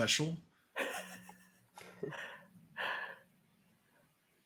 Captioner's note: person chuckling